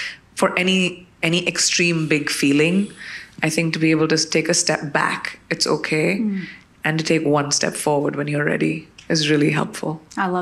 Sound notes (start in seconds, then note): none